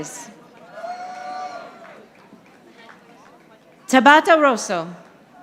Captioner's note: audience applauding